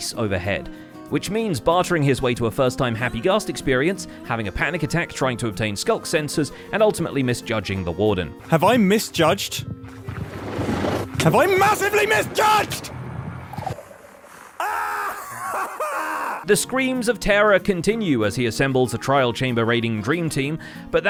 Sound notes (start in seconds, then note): 10.8 Warden growling; 11.7 blast; 12.9 shouting; 14.5 resonant agonized screaming